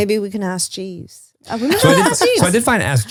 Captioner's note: laughs